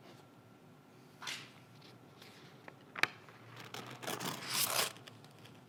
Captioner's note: page whooshing; page ripping